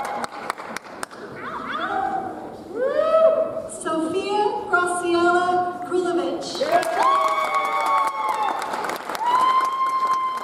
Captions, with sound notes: Sophia Grosiola Grulavich. (audience applauds)